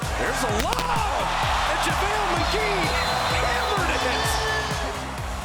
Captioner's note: crowd cheering